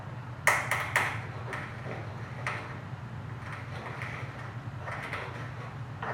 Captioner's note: crushing